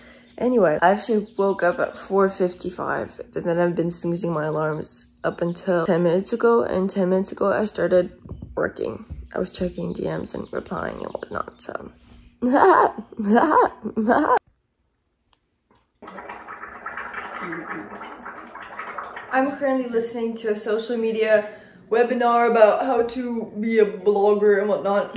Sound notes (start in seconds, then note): 16.0 gargling